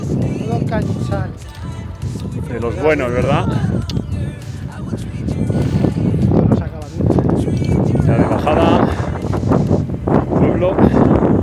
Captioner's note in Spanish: Risas